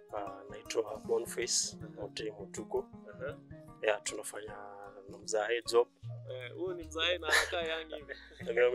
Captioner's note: laughter